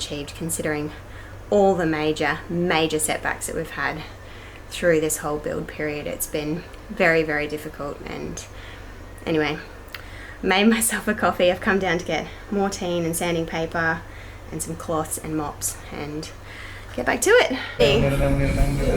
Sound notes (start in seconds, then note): none